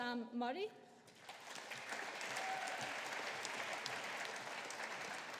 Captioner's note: audience applauding